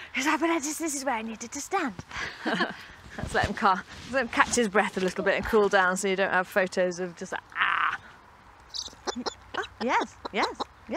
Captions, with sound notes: He says, "Oh, but this is where I needed to stand." (both laugh) Let's let him calm. Just let him catch his breath a little bit and cool down so you don't have photos of just, ah... (owl chatters) Yes, yes, yes.